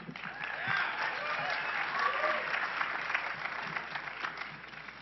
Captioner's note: cheering and clapping